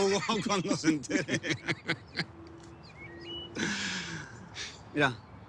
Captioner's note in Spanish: Risas